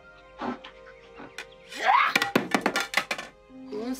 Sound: shrieks

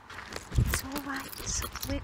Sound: wings flapping

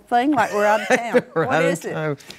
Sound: laughs

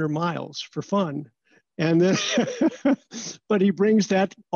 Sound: laughter

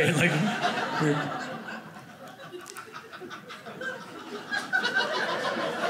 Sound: audience laughing

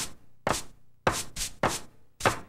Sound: tap tap

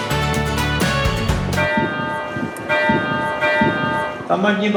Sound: bell ringing

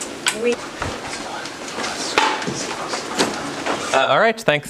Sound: indistinct conversation

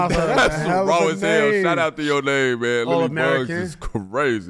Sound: laughs

